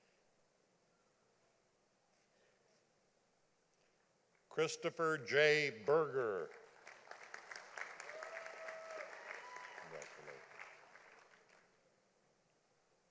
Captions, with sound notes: Christopher J. Berger. (audience applauding)